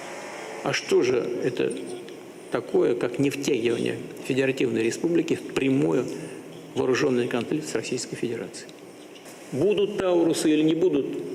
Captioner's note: speaking russian language